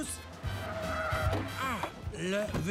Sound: tires screeching

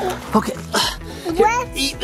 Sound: dad grunts

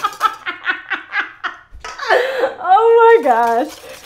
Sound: laughter

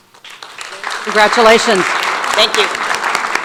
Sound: audience applauds

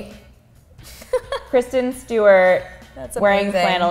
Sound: more super gay laugh

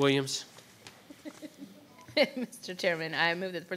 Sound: laughing

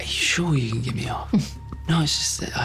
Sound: chuckling

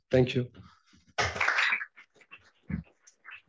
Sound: applause

